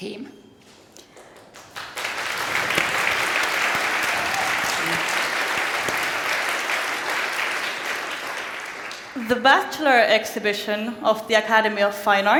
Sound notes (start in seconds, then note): 1.1 applause and cheering